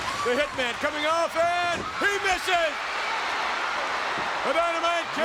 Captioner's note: crowd cheers